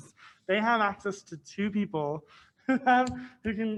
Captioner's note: laughs